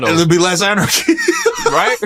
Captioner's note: laughs